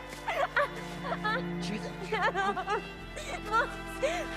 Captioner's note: Betty crying